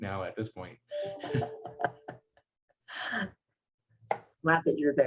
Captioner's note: laughs